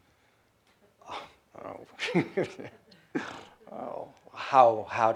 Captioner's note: he chuckles